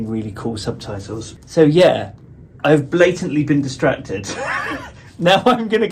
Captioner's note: laughs